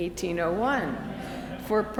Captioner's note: audience laughs